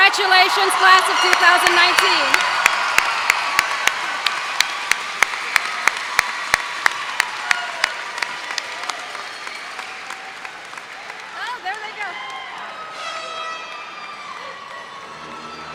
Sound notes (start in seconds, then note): 2.1 cheers and applause